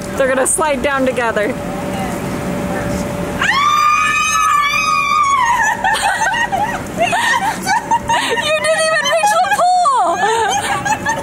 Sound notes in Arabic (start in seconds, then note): 3.4 تصرخ النساء وتضحك; 11.0 تضحك النساء